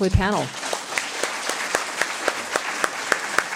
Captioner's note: clapping